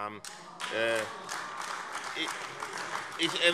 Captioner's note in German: Beifall